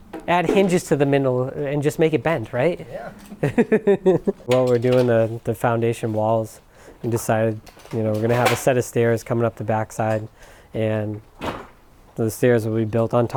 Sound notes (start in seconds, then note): 2.9 laughs